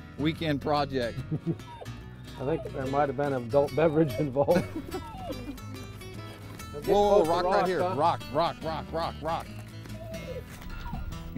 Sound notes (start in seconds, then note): 4.0 laughter